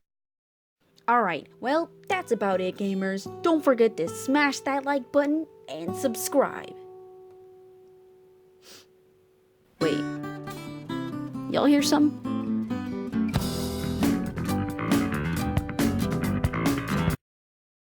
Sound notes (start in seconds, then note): 8.6 sniff; 13.3 bass guitar solo